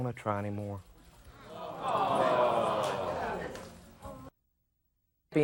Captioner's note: audience booing